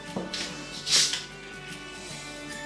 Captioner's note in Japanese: 炭酸が抜ける音